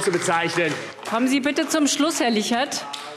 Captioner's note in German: Beifall AfD